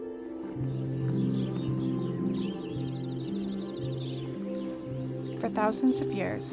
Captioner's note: birds chirping